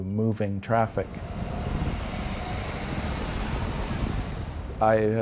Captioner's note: traffic rushing